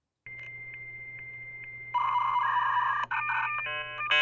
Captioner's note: beeping